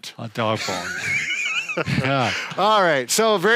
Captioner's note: laughing